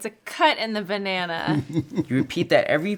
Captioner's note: laughs